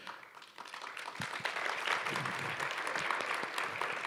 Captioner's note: applause